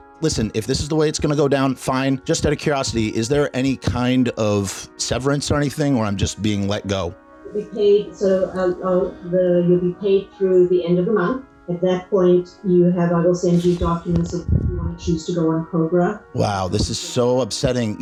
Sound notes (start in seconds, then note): 8.5 spineless stammering